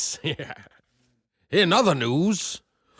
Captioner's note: laugh